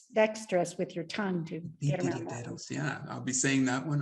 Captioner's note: speaks Spanish